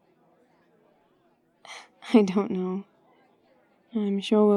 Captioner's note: laughs